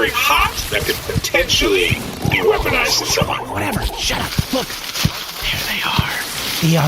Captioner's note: hushed